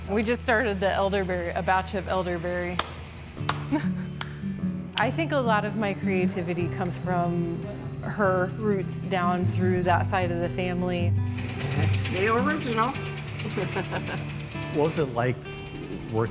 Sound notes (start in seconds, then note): 3.4 clapping; 13.4 laughs